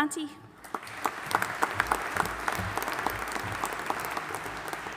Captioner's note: audience applauding